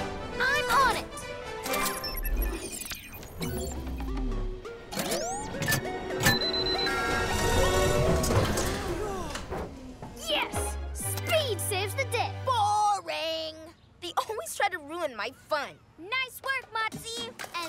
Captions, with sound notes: I'm on it. (Sighs of relief) Yes! Speed saves the day. Boring! They always try to ruin my fun. Nice work, Motsie!